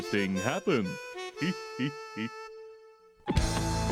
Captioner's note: snickers